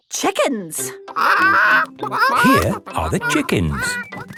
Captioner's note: clucking